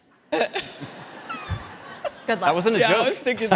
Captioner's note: all laughing